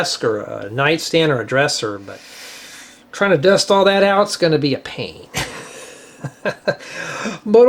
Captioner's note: laughter